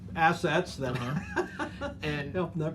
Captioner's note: laughs